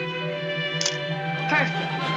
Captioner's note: camera clicks